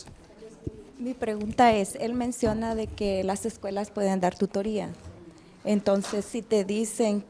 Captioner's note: speaks in a foreign language